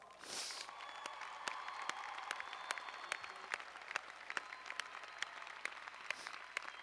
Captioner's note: cheers and applause